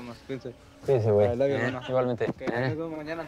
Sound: in Spanish

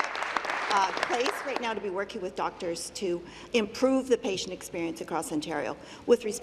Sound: applause

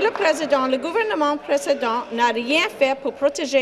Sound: applause

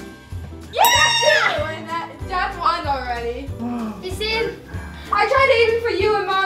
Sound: cheering and triumphant bell sound

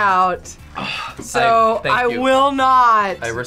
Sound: sighs

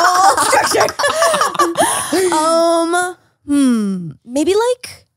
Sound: everyone laughs

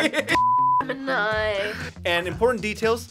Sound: laughter; beep

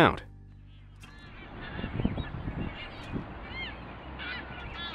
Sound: distant birds call

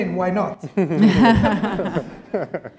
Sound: laughter

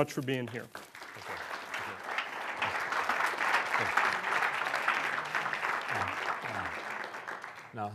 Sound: applause

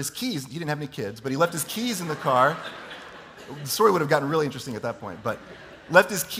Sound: laughter

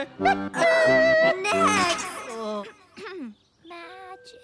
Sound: clearing throat

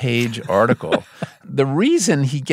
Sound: laughing

